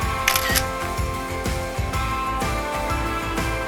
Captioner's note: camera shutter